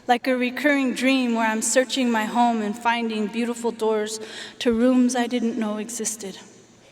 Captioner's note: none